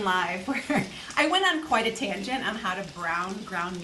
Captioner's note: laughs